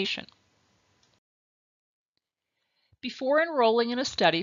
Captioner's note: silence